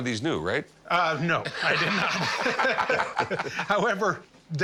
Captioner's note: laughing